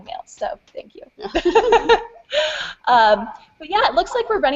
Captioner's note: laughter